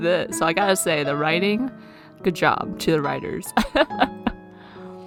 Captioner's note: laughs